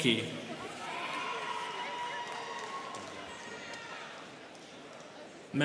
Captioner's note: students cheering